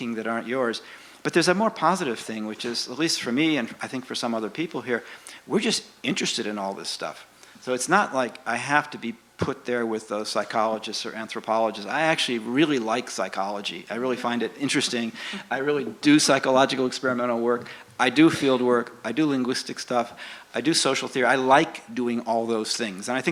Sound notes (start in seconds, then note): 14.8 laughs